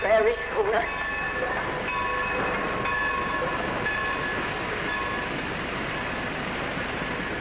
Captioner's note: bell tolling; train rumbling